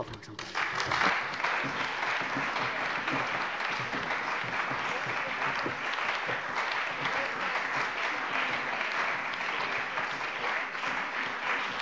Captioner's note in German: Anhaltender lebhafter Beifall bei der CDU und dem BÜNDNIS 90/DIE GRÜNEN